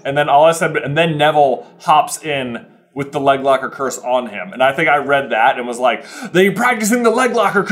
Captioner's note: none